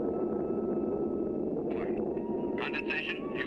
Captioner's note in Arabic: همهمة محرك الطائرة